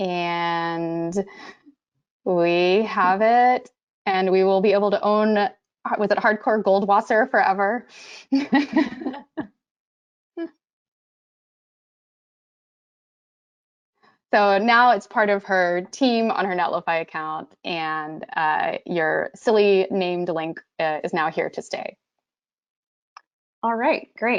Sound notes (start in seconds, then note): 8.3 laughter